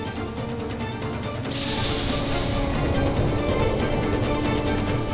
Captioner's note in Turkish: Üflüyor